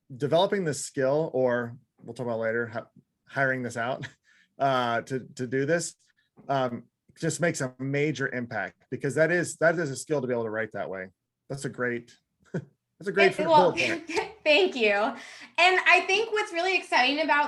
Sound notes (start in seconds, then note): 13.5 chuckles